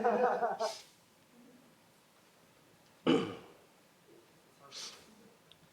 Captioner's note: crowd laughs